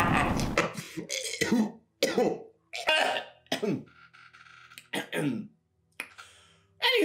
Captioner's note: evil laughter; choking and coughing